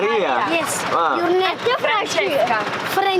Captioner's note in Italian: Inglese